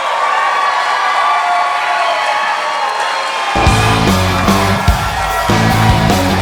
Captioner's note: applause